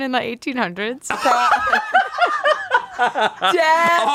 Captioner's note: everyone laughs